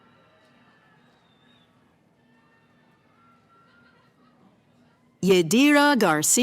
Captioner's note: cheering